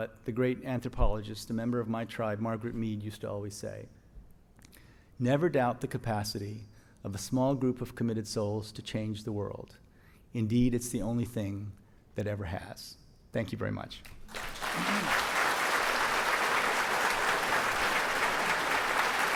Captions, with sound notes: what the great anthropologist, a member of my tribe, Margaret Mead, used to always say. "Never doubt the capacity of the small group "of committed souls to change the world. "Indeed, it's the only thing that ever has." Thank you very much. (audience applauds)